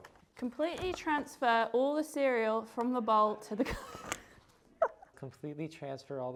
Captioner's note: laughter